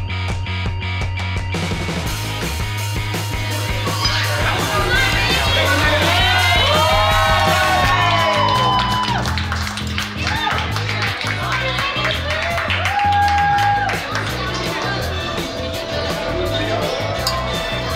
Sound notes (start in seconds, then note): 6.6 patrons cheering; 8.8 patrons clapping